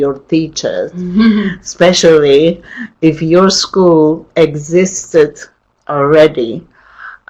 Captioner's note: chuckles